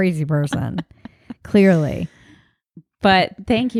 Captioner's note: laughs